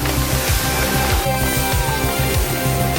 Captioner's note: cheers